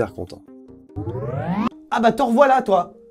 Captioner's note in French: bruit de reconnexion